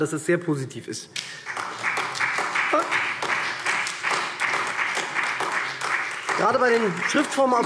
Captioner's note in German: Beifall SPD